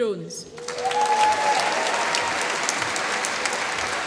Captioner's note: applause